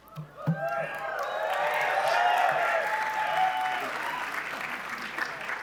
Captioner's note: cheering and applause